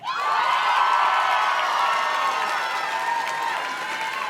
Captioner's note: audience cheers and claps